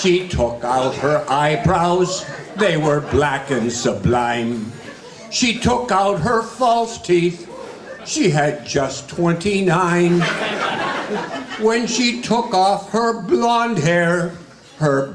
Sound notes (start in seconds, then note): 9.6 guests laughing